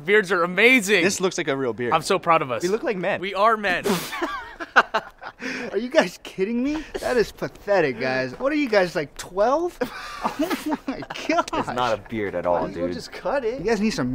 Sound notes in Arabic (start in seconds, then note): 3.8 ضحك وسخرية; 9.8 ضحك